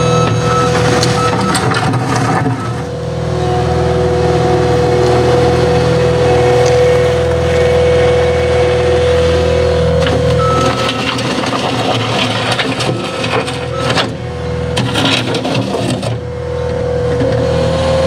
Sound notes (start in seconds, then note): 0.0 reverse signal beeping; 10.4 reverse signal beeping